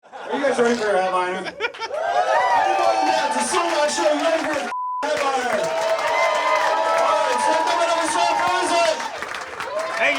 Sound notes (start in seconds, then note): 1.3 spectator laughs; 1.8 audience cheering; 4.7 beep; 5.0 audience applauding; 5.0 audience cheering